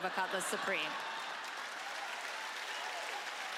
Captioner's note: cheering